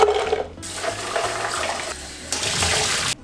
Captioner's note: bones clattering; water rushing